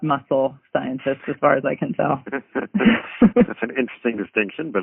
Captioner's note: laughs